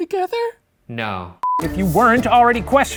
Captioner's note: beeping